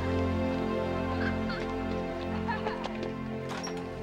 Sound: children laughing

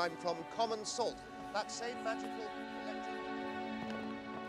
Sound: voice fades

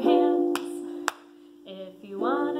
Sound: clapping

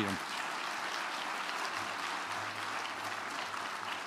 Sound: applause

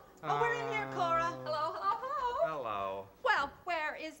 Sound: father, unexcitedly

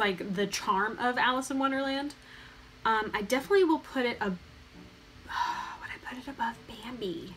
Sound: sigh

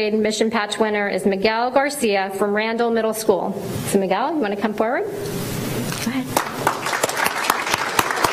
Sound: applause

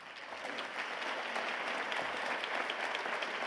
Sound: applause

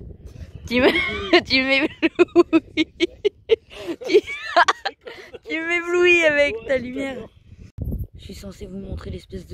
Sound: laughs

